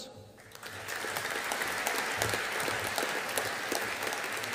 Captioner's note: audience applauding